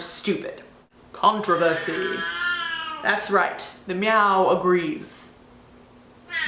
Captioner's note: off screen *Meeeoooowww; meow